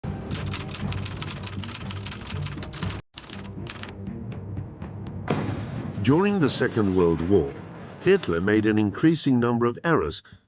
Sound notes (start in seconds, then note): 0.3 typewriter clacking; 5.2 explosion booms